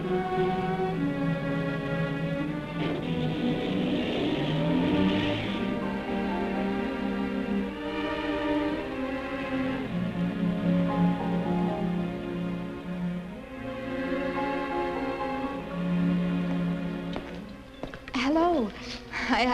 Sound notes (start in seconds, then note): 2.9 car engine revving; 2.9 door slams